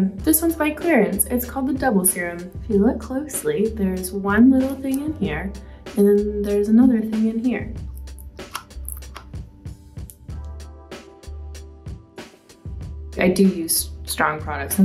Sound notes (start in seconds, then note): 7.8 serum pumping; 8.2 calming music